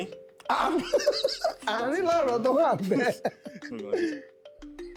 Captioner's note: laughs